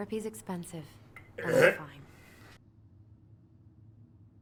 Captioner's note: gaging sound